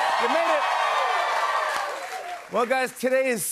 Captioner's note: cheers and applause